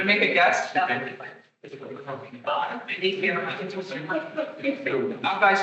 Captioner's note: attendees chattering